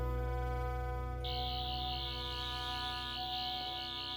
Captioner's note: buzzing